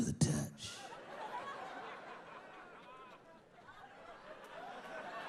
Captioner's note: audience laughing